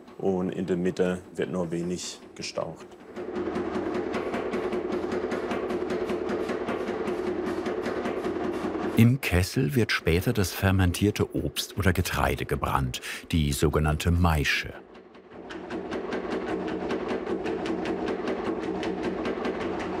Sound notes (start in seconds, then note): 3.0 rattling; 15.4 rattling